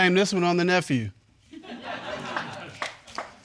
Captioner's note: audience chuckling and clapping